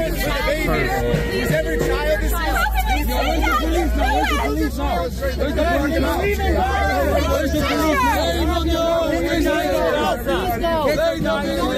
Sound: people talking in video clip

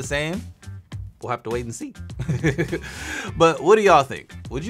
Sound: laughs

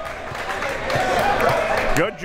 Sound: crowd members clapping

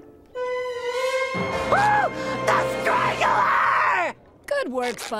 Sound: shrieking

